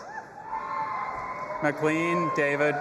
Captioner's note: audience applauding and cheering